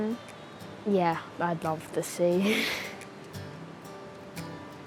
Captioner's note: giggles